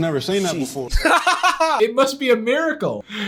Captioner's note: laughs